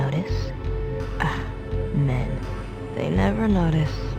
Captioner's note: scoff